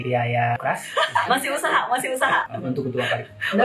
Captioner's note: laughs